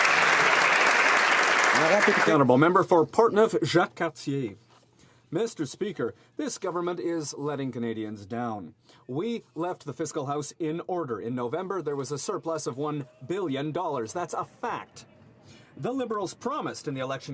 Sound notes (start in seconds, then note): 0.0 applause; 5.0 speaking French